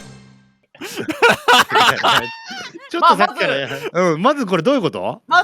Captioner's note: laughing